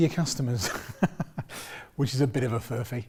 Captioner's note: laughs